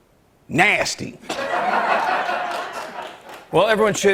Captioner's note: laughter